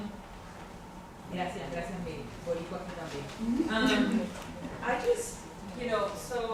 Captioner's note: speaking in a foreign language